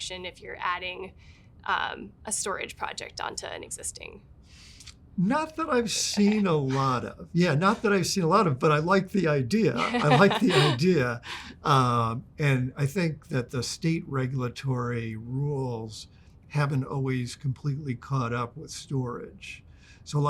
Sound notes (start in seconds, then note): 5.8 chuckles; 9.7 laughs